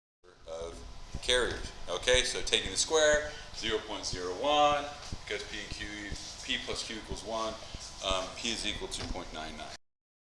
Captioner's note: mic cuts out